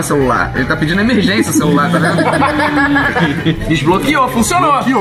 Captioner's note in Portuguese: risadas